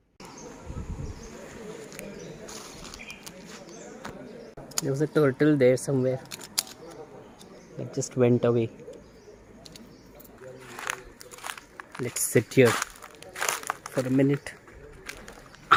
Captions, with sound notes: There's a turtle there, somewhere. It just went away. [crushing sound] Let's sit here for a minute.